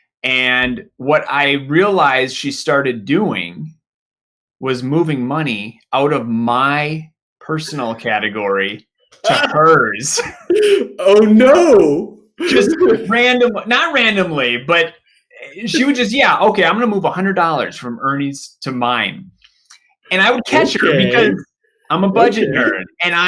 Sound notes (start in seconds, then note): 9.2 both laughing